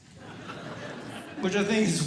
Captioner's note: audience Laughing